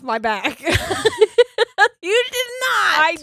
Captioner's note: laughing